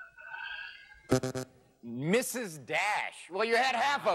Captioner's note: buzzing